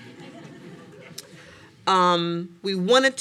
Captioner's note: audience laughing lightly